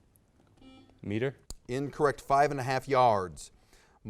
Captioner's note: buzz